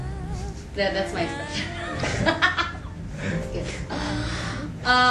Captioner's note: laughing